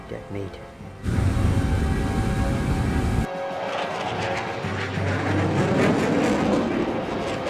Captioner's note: aircraft whirring; intense, dramatic music